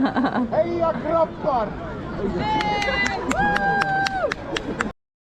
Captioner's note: giggle; someone speaking and cheering in Swedish